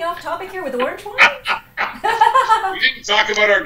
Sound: laughter

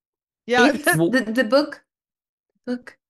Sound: confused phonation

